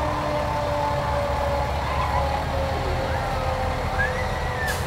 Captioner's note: siren blares